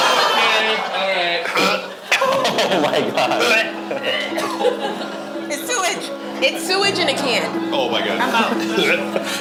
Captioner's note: groaning